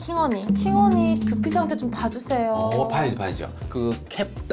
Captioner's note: sad sound effect